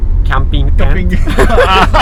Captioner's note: laughing